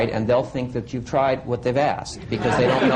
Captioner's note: laughter